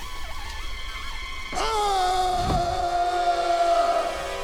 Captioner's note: screaming